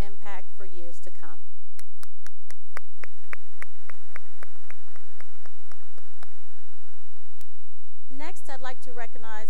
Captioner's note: applause